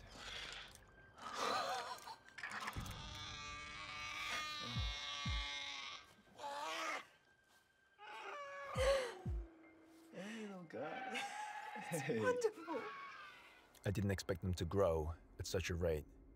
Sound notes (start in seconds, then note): 1.3 laughs; 2.3 dinosaur crying